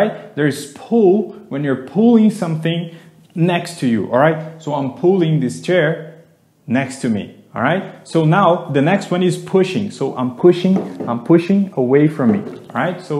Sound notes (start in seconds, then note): none